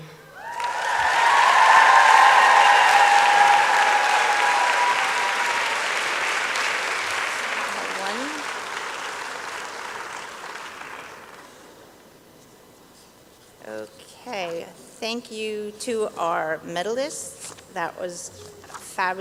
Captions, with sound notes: (applause and cheering) - Okay thank you to our medalists, that was fabulous.